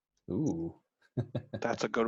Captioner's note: laughs